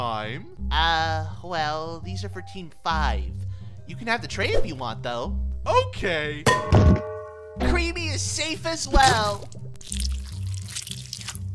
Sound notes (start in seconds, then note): 6.4 metallic bonk